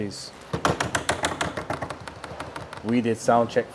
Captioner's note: hands thudding